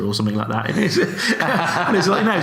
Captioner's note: laughs